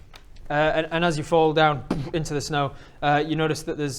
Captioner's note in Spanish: puff